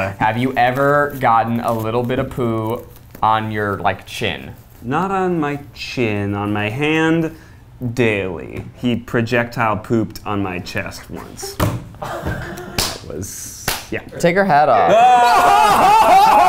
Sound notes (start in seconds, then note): 12.0 laughs